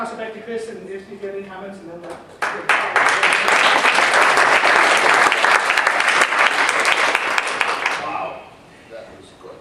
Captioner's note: applause